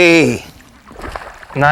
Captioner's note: splash